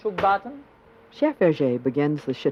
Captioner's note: voiceover